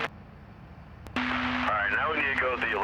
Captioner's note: static